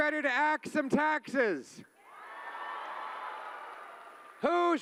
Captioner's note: cheering